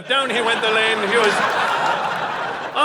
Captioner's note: audience laughing